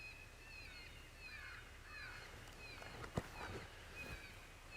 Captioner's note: animal calls in the distance